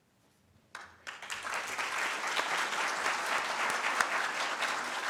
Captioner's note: audience claps